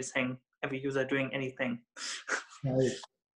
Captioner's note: chuckles